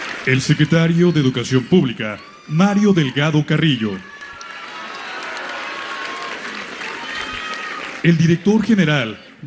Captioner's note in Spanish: aplausos